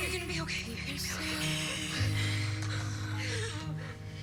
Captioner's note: sobs